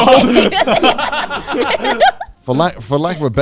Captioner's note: everyone laughing